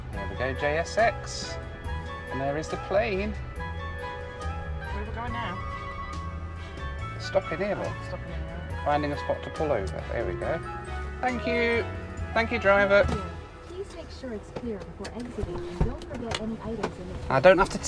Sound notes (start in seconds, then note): 12.6 car